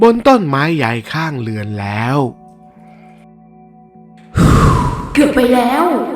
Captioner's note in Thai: เสียงถอนหายใจ